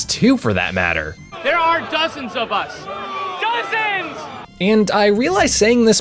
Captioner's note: booing can be heard building up in the background as takes a beat